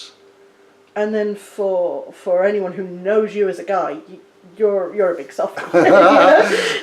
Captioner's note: they laugh